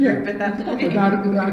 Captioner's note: all laugh